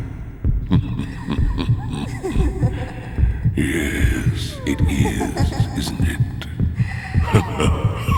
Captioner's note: knowing laugh; laughs together